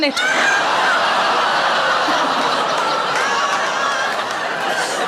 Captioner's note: audience laughing